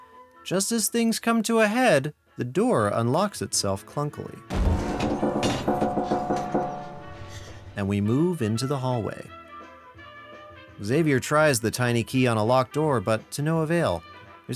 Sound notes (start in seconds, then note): 4.5 door creaking